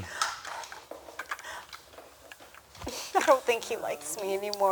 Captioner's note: lego blocks clacking